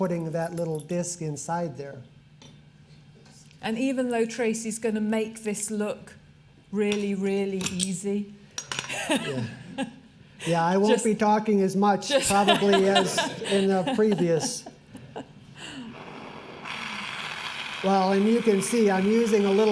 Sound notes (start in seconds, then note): 8.9 laughter; 12.1 laughter